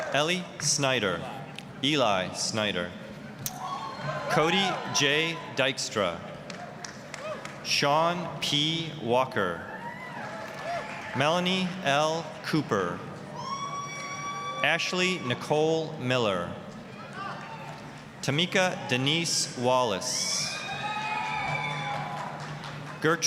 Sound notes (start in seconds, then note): 3.4 applause, cheering; 6.4 applause; 9.8 applause, cheering; 13.4 applause, cheering; 16.9 applause; 20.5 applause, cheering